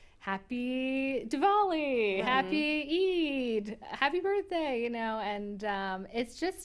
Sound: none

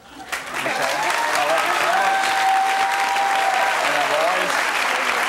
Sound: audience applauding

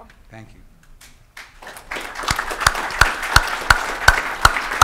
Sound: audience applauding

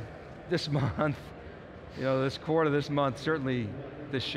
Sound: chuckles

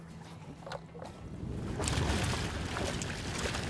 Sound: water splashing

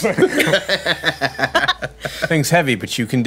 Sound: laughing

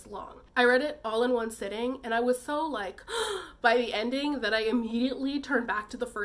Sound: gasp

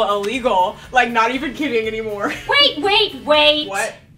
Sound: laughs

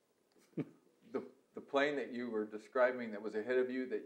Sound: laughs

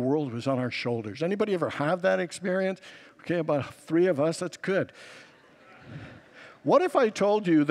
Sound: congregants laugh

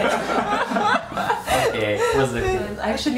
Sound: continue laughing

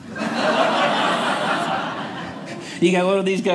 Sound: audience laughing

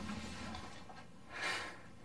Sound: rustling sound; heavy breathe

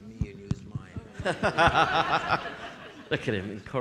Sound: audience laughing

